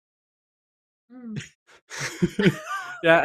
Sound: laughter

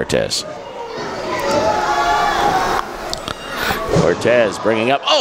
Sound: crowd screams

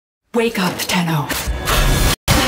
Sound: distortion

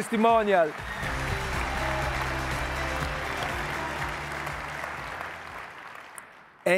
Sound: audience applauding; upbeat music

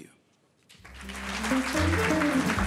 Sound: audience applauding; upbeat jazz music

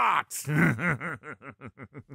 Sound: maniacal laughter

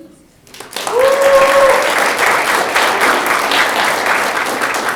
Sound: audience clapping

